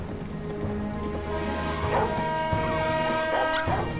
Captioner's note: barking; whistle blaring